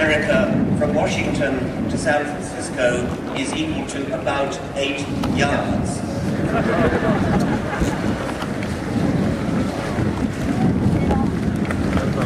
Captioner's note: laughter, applause